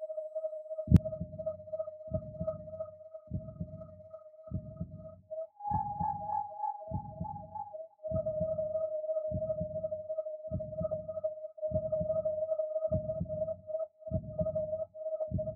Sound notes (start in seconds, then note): 0.0 whirling wind tones; 0.9 ♥Heartbeat.♥